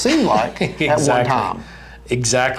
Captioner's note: laughs